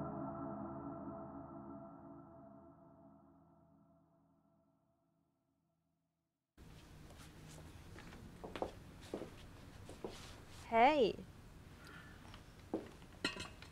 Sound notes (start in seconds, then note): 9.0 footsteps